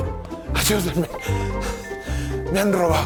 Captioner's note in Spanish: respiración agitada